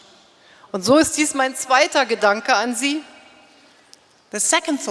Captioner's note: speaking in German